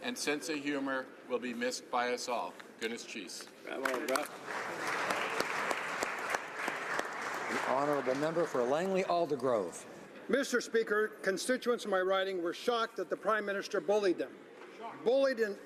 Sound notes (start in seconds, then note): 9.7 some Applause